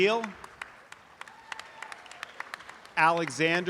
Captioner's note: audience applause